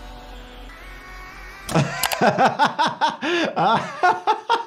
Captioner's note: blade rasping; door clattering; doctor laughing